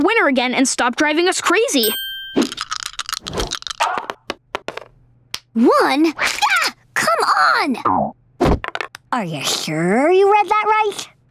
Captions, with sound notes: and stop driving us crazy. [rattling] One? GAH! Come on! Are you sure you read that right?